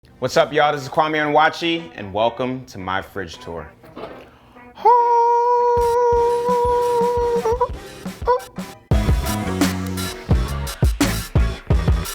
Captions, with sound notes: - What's up, y'all? This is Kwame Onwuachi, and welcome to my fridge tour. (vocalizes) (upbeat music)